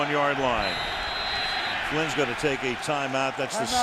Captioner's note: whistle